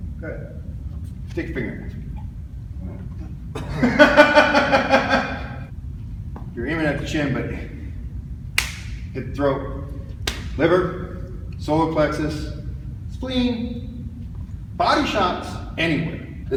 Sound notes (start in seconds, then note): 3.5 loud laugh; 8.6 smack